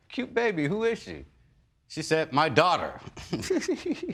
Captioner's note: giggles